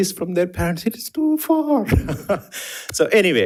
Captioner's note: laughs